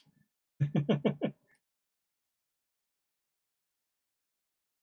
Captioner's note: chuckles